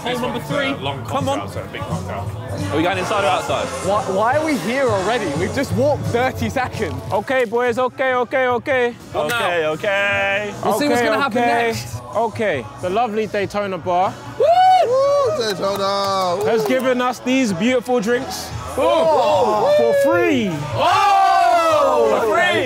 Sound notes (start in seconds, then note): 14.4 cheering; 20.4 cheering